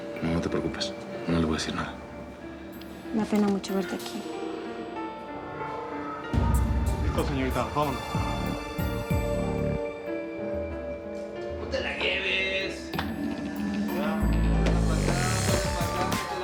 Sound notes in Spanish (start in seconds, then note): 11.7 Se oyen piropos de los presos